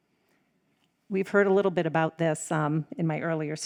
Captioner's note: none